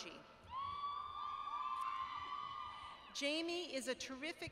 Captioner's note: cheering